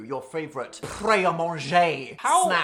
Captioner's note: foreign language